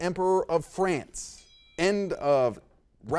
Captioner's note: bell rings